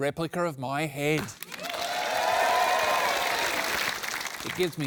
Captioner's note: cheering and applause